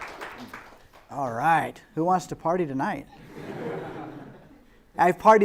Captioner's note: laughter